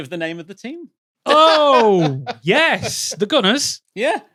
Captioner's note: laughs